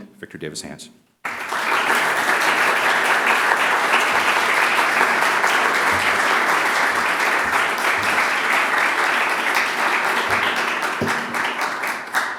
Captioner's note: applause